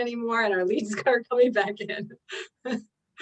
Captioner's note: chuckles